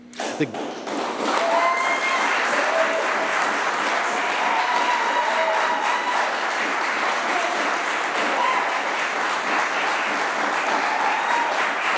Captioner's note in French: Applaudissements